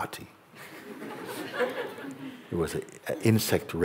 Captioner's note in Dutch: gelach